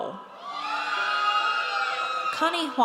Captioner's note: audience cheers